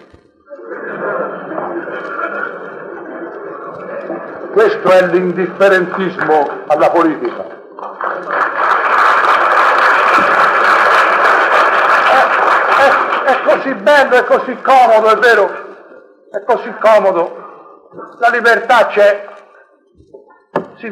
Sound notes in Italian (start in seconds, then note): 0.4 risata del pubblico, n.d.t; 7.7 applausi del pubblico, n.d.t